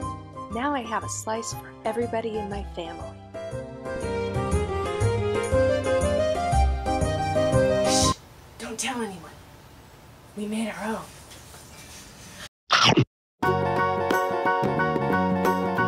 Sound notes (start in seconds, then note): 3.2 italian Music; 12.7 Munch